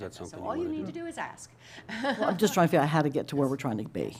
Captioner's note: laughter